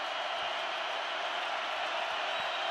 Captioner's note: crowd cheering